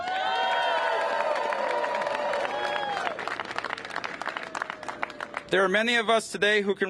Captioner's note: cheers and applause